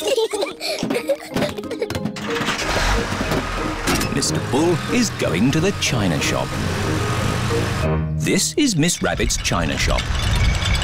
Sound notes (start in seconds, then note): 0.0 peppa and george giggle; 2.2 engine turns on